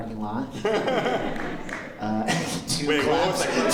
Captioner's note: laughter, light scattered applause; laughter